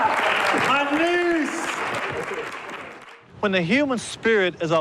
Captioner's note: audience clapping